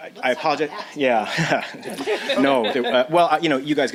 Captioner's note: chuckling